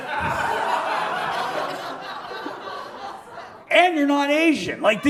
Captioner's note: audience laughs